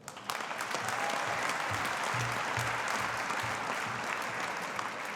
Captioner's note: audience applauding